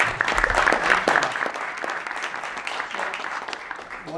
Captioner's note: applause